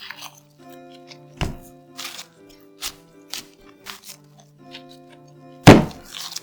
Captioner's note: folding